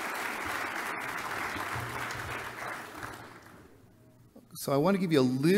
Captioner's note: applause